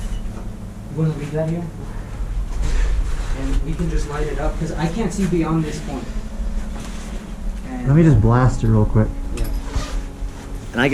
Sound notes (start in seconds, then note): 0.0 beeping; 0.0 shuffling; 2.4 shuffling; 2.6 heavy breathing; 6.3 shuffling; 10.1 backpack unzips